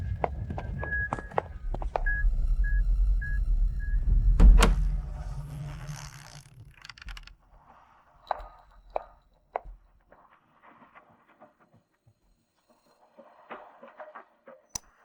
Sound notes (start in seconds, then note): 2.4 beeping